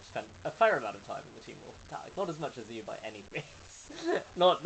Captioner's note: laughing